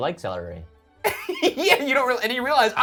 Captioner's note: laughs